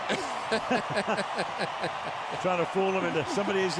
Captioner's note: laughter